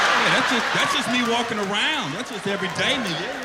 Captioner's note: laughter